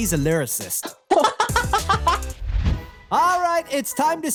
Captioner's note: laugh